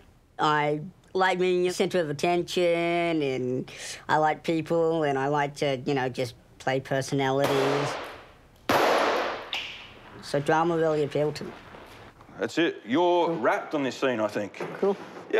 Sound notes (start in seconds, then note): 8.6 gunshot